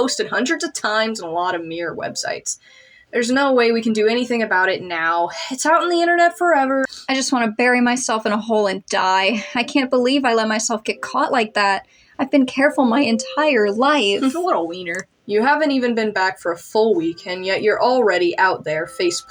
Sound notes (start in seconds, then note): 14.1 chuckle